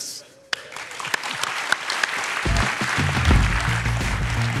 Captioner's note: audience applauds; upbeat music